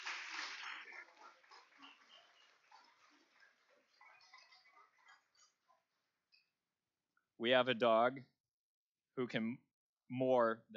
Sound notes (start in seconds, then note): 0.0 applause